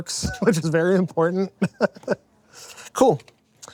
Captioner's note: laughs